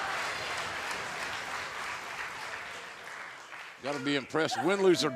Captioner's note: fans chanting